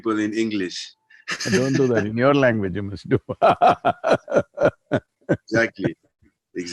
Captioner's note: laughs; laughs